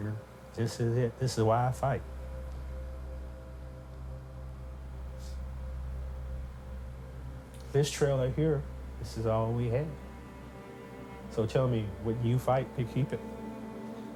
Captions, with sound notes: This is it, this is why I fight. (static tone) This trailer here, this is all we had. So tell me, would you fight to keep it?